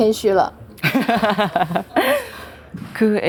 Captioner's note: laughs